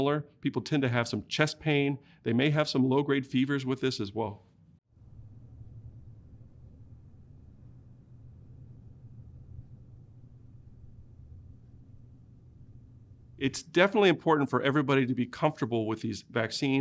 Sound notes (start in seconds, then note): 4.2 silence